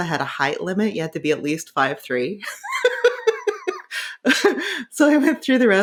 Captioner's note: laughing